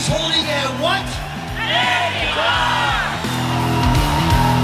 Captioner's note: crowd; upbeat rock music